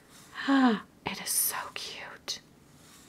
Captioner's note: gasps